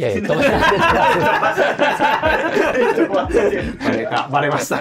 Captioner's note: laughing